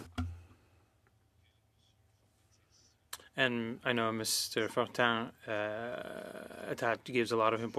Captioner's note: speaking French